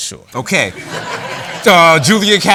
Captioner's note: laughter